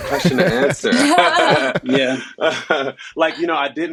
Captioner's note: all laughing